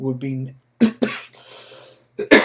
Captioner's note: coughs